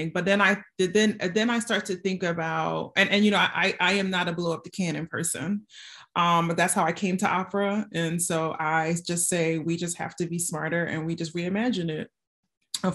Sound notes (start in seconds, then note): none